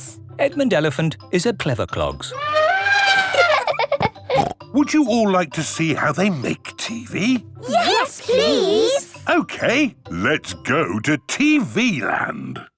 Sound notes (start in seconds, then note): 2.3 trumpeting; 2.7 laughing